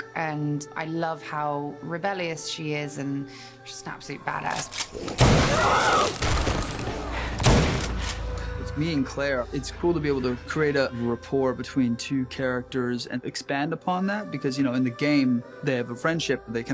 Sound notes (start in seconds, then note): 5.0 gunfire; 5.4 screams; 7.4 gunfire